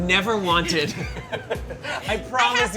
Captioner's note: laugh